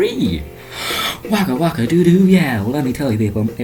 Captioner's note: inhale